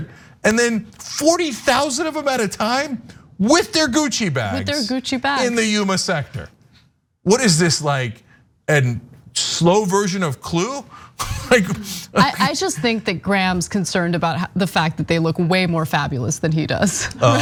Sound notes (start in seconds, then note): 11.3 laugh